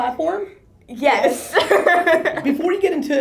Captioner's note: laughter